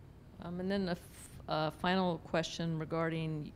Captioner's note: voiceover